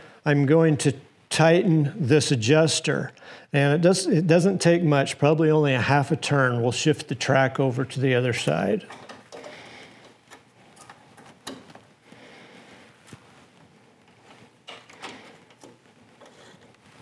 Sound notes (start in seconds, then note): none